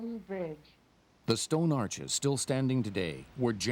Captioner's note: voiceover